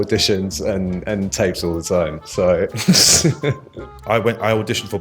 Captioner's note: chuckles